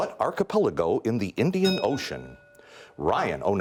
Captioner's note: bell rings